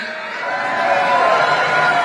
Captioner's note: applause